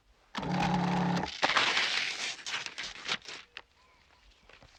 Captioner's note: disposal whirring